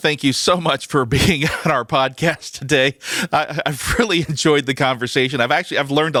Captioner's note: laugh